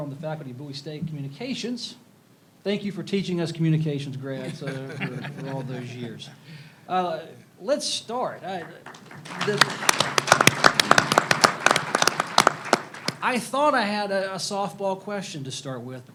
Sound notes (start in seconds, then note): 8.4 audience applauds